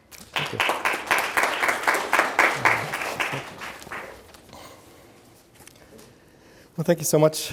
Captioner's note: audience applauds